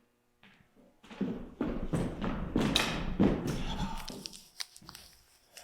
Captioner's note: feet stomping; leaves rustling